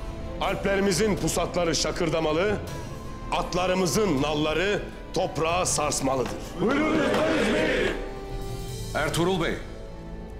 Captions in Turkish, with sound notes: Alplerimizin pusatları şakırdamalı... ...atlarımızın nalları toprağı sarsmalıdır. (Hep bir ağızdan) Buyruk senin beyim. Ertuğrul Bey.